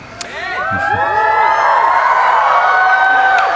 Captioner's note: cheering